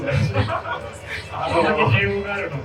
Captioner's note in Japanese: 会場：笑